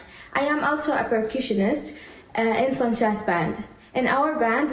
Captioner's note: faintly speaking